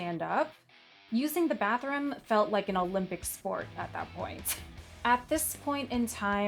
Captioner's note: scoffs